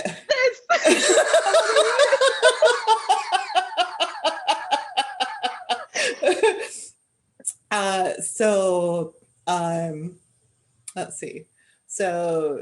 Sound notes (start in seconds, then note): 2.3 laughter